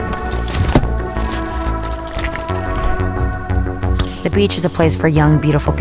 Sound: tense electronic music; lotion squishing

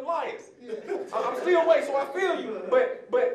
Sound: audience laughing

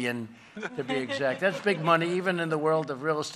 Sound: laughter

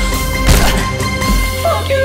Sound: punch noise

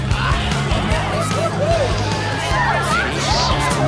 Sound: gasping

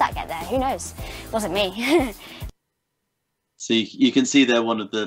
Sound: chuckles

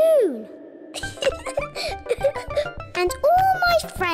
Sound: laughs

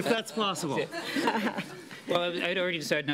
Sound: laughter

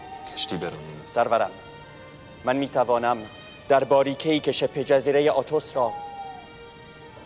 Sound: Mardonius speaking in foreign language

